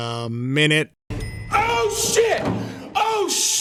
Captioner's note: dings